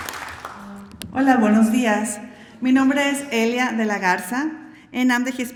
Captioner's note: speaking spanish